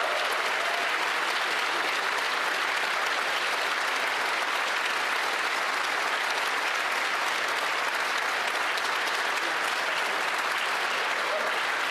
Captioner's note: applause